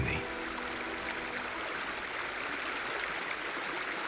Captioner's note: water sloshes